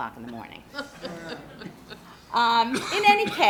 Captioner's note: group laughs